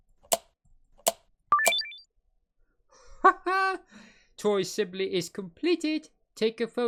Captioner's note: completion sound